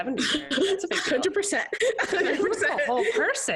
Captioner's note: laughs